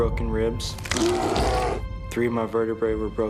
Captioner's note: bones crunching; bear growling